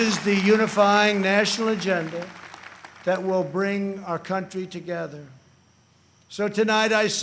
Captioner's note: applause